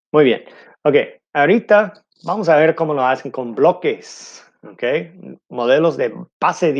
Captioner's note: speaking in foreign language